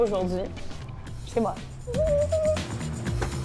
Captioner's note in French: couinements de joie